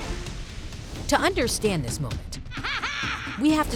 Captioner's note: intense cinematic music; Azula laughing